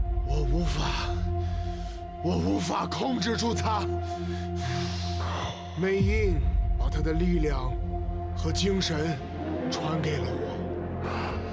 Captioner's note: chinese language